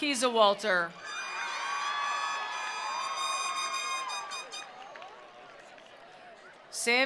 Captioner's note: attendees cheering; attendees applauding